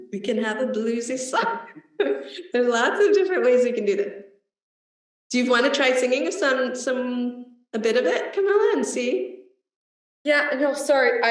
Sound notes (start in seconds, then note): 1.5 laughs